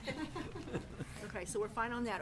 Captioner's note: laughing